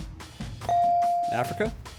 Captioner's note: buzzer chimes